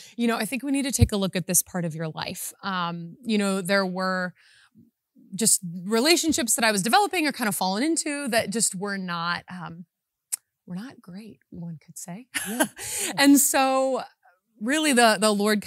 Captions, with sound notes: "you know, I think we need to take a look "at this part of your life." You know, there were just relationships that I was developing are kind of fallen into that just were not great, one could say (chuckles). And so really the Lord